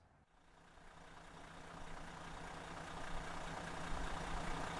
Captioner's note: engine purring